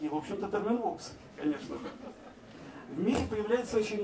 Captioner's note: laugh